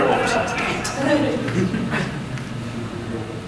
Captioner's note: audience chuckling